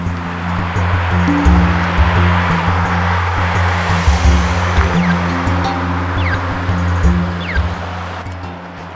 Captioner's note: traffic noise